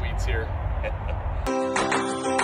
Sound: laughs

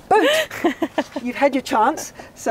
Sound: laughs

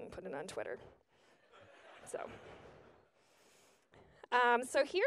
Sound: audience laughs

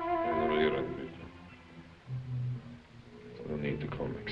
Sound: speaking foreign language

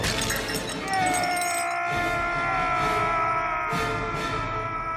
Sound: yelling

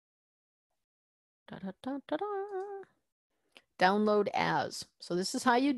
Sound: humming

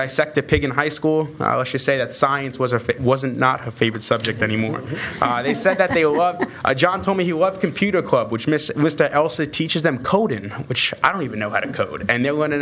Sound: laughter

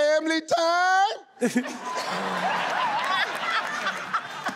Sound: laughing

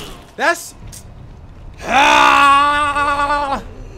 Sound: yells

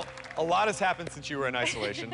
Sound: laughs

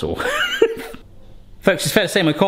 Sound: laughs

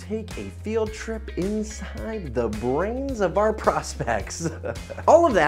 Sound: laughs

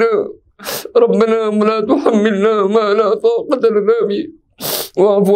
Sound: arabic

